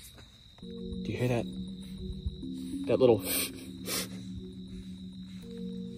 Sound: hiss; hiss hiss

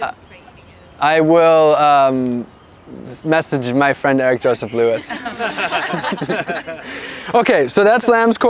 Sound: laughter

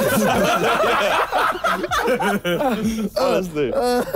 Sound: laughing

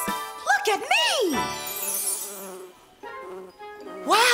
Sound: chime

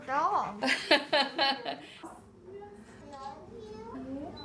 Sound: laughing

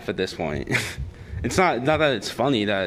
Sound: laughter

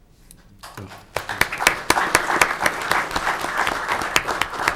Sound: audience clapping

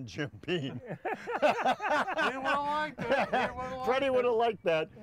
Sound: men laugh

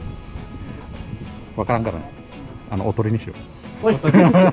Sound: laughs

